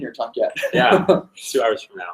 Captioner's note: laughs